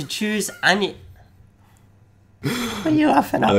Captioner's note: laughing